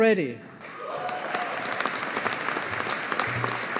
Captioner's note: audience applauding